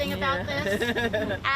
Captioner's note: laughter